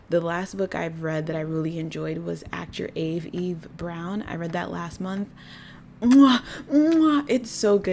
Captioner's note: loud obnoxious chef’s kiss